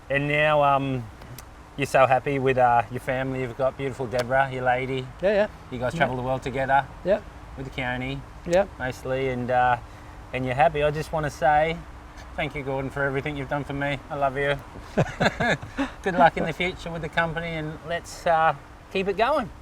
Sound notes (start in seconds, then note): 14.8 laughs